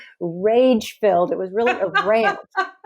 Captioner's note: laughs